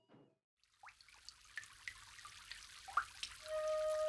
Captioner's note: water fountain